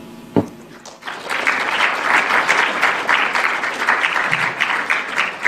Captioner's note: applause